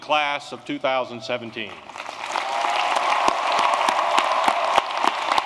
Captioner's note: applause